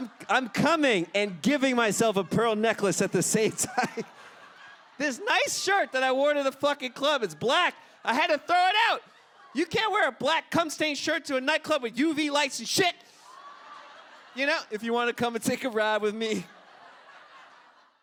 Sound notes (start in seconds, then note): 5.0 audience Laughter; 13.0 audience laughter